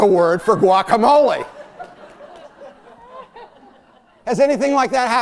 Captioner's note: laughter